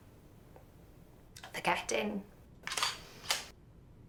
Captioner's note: shutter clicks